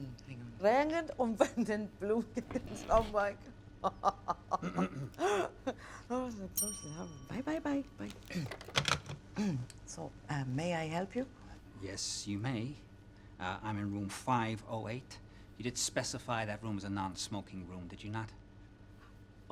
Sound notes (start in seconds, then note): 5.3 man clears throat; 6.5 bell dings